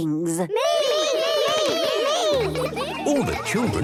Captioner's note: all calling out